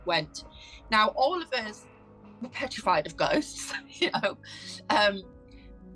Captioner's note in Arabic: يضحك